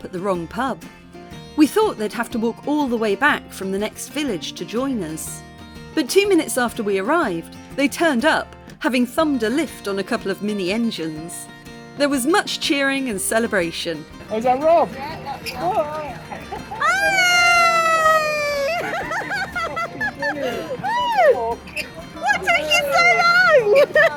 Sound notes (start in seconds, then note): 16.6 laughing; 16.7 cheering